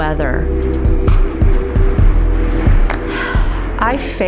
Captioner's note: storm winds blowing; sighing